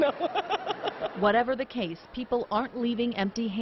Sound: laughs

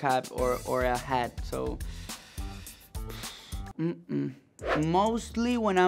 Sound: sighs

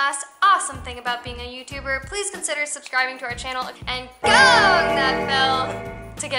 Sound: bell ringing

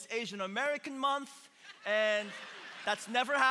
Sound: congregation laughing

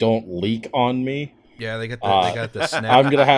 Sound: laughter

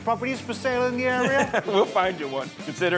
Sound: laughing

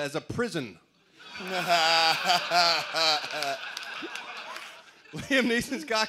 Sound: laughter

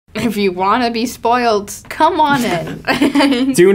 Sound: actors laugh

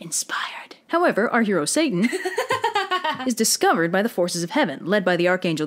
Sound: chuckles

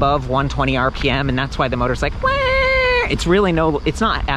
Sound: high pitched sound

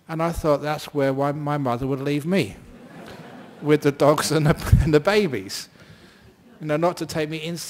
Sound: laughter

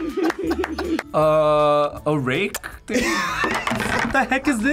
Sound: both laugh; laughs

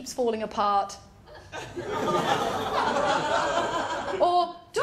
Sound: laughter

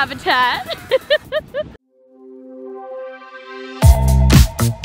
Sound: laughing; upbeat music

